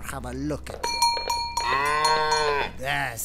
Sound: Tony runs around, bell ringing

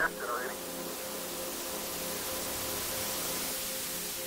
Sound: radio static

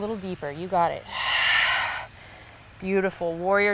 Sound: exhales

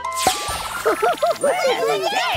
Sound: laughs

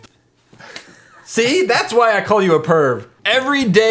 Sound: slaps

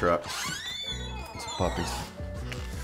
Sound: door opens

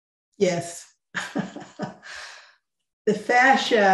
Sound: laughing

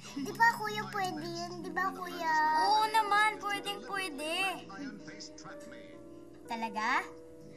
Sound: none

